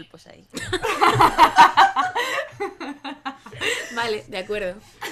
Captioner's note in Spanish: risas